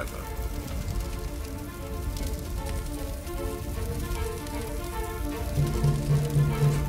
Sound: flames crackling; dramatic music

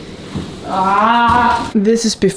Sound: arghh

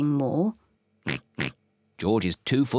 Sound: oinking

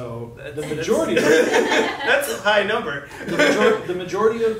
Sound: laughing

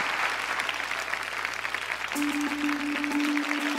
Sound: applause

